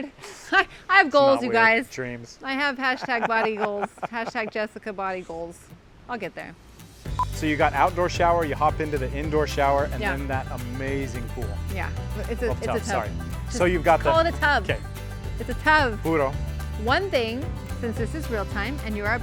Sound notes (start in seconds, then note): 0.2 laughs; 7.1 beeps